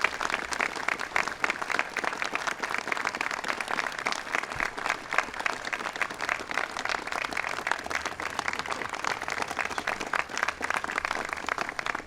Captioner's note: applause